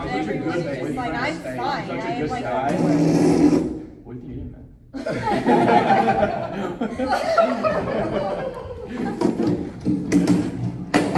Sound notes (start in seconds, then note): 0.2 table-talk chatter; 4.9 laughter; 7.4 laughter + crying